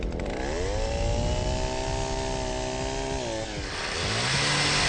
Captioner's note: machine roaring